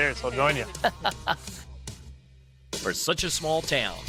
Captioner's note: laughs